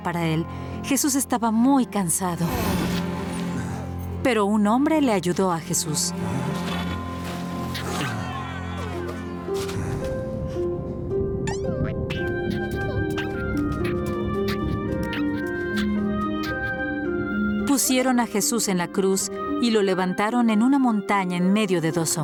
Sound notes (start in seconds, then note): 5.2 sad music playing; 12.0 caterpillar noises